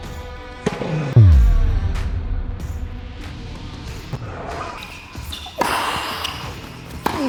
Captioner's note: circle booms; ball thumps; circle booms; ball thumping